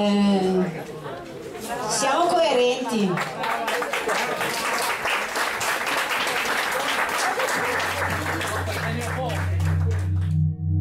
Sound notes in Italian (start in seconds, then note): 2.9 Applauso